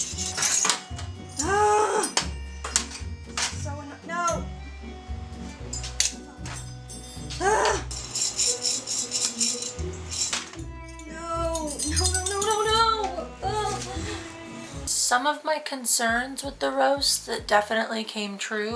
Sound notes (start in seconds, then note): 1.4 frustrated moaning